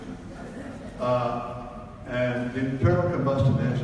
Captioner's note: audience laughs